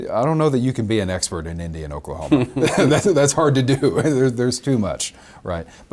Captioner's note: both laugh